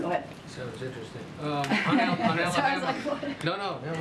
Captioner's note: laughter